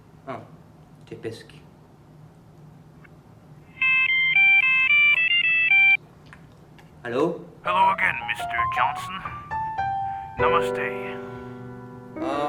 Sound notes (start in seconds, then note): 3.8 the sound of a ringing telephone